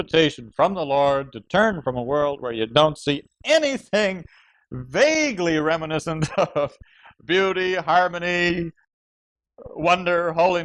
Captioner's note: laughs